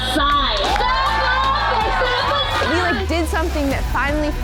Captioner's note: group cheering